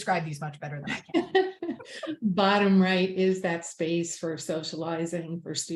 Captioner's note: laughs